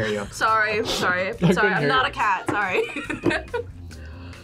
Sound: laughs

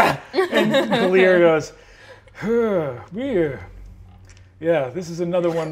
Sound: groans sadly

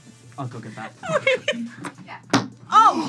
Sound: laughs

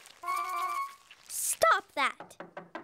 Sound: knocking on door

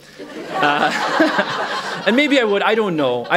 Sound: laughter

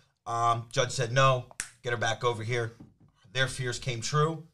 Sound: snaps fingers

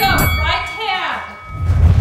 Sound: bell dings

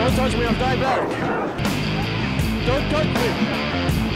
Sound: dog barking

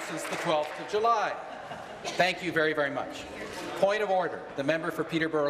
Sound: applause

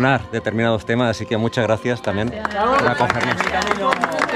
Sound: applause

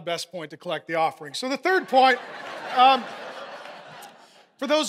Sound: congregation laughing

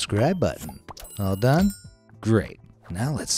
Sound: bell ringing

